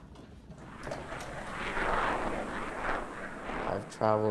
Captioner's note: airplane swooshes